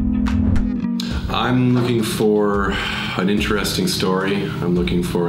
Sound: sighs

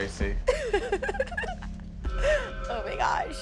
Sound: laughing

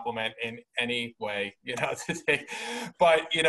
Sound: laughs

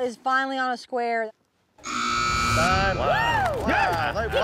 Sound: buzzer sound

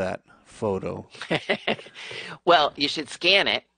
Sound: laughing

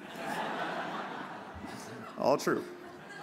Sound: audience laughs

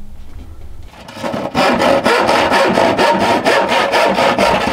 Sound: saw scraping

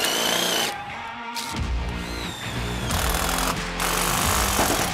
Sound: mechanical whirring

